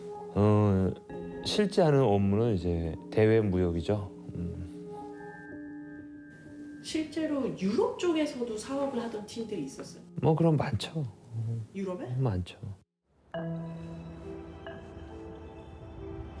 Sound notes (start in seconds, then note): 7.1 reporter speaking Korean; 10.7 speaking Korean; 13.1 soft music